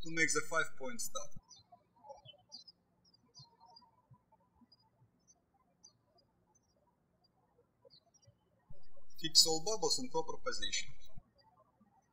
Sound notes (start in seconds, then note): 2.3 birds chirping; 11.9 birds chirping